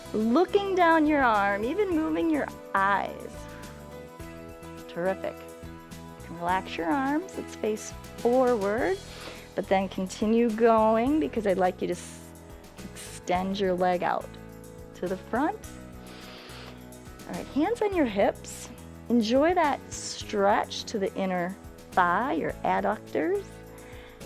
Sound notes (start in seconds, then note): 16.0 inhales